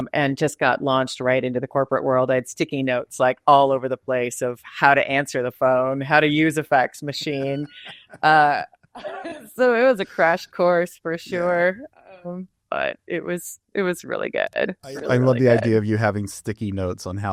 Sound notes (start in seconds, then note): 9.0 laughs